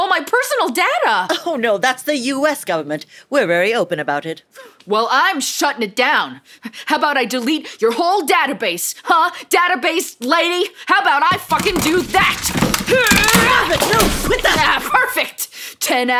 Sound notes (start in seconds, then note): 11.3 sound of a laptop being thrown on the floor